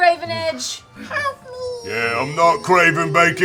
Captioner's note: tiny voice